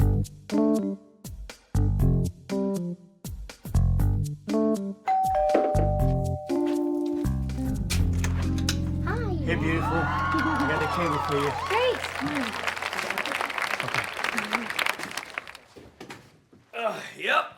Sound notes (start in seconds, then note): 5.0 doorbell rings; 9.5 audience cheers